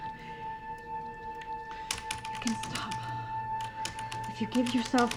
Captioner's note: keyboard clacking